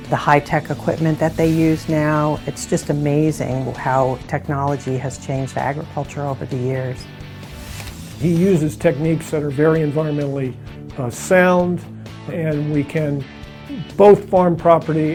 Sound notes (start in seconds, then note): 8.3 male Voice